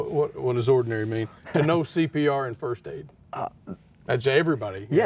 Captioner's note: laughing